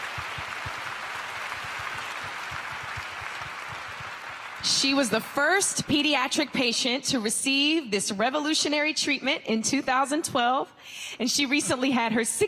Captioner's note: applause